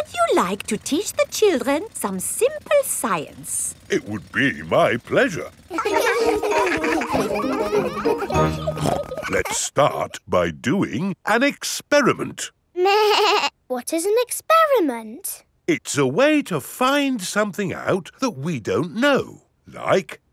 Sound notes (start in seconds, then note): 5.6 children laughing; 8.7 snorts; 12.9 bleating